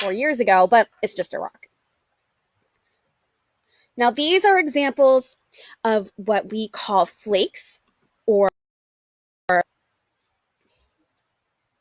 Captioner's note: audio cuts out